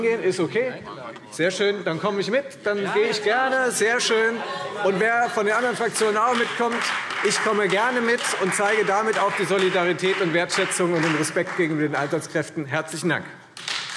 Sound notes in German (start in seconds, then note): 5.6 Beifall Freie Demokraten